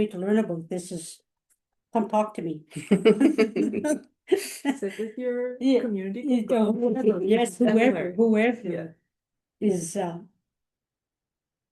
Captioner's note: laughter